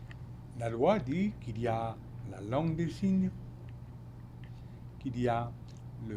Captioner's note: speaking French